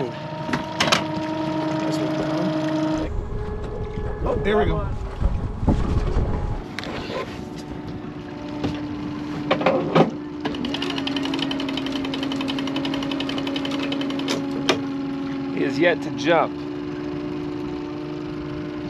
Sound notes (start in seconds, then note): 1.0 boat engine idling; 4.2 electric motor cranking